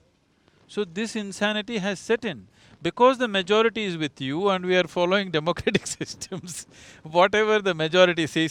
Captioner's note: laughs